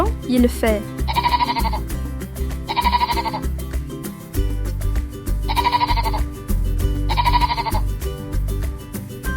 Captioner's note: the sheep bleats